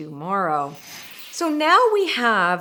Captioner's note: loud whooshing